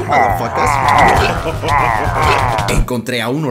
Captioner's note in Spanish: Risa de locura